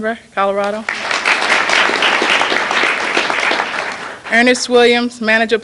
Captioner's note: applause